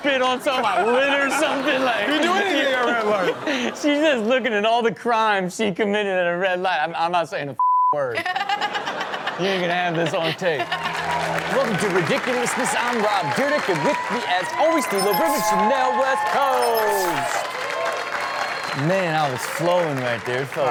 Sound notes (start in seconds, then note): 7.6 beep; 11.1 audience clap